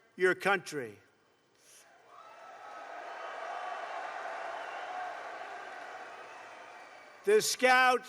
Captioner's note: applause